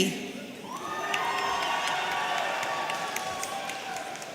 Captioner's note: audience cheering